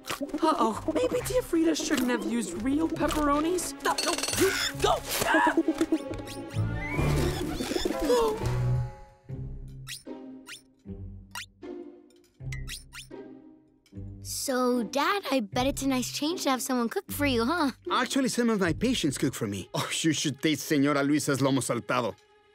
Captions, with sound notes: Uh-oh. Maybe Tía Frida shouldn't have used real pepperonis? No, no! You...! No! [screams] Oh... So, Dad, I bet it's a nice change to have someone cook for you, huh? Actually, some of my patients cook for me. Oh, you should taste Señora Luisa's lomo saltado.